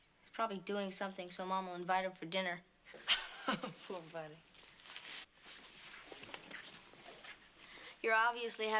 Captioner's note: laughs